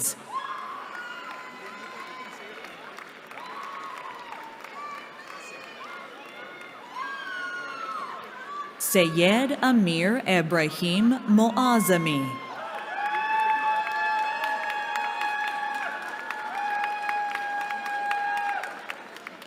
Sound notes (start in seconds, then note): 0.2 cheering; 11.9 cheering